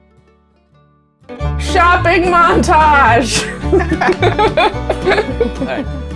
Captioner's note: laughter